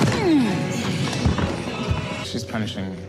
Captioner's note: athletes grunting